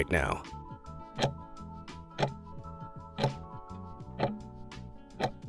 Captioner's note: timer ticking